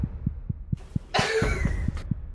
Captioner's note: laughs